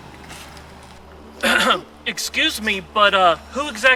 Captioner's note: coughs